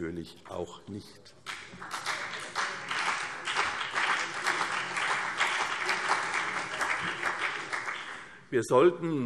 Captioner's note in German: Beifall CDU und BÜNDNIS 90/DIE GRÜNEN